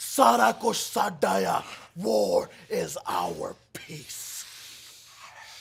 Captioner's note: speaking foreign language